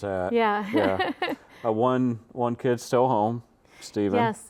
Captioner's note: laughs